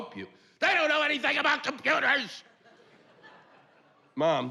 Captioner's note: yelling